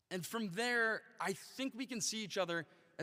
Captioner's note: none